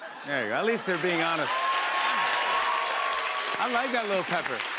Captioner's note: cheers and applause